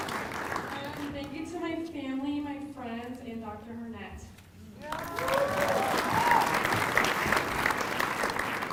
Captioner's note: applause